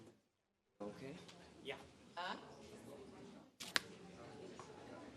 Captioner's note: indistinct conversations